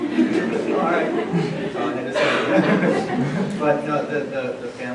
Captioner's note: laughter